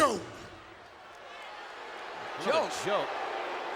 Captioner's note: audience booing